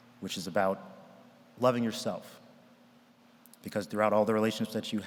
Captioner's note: none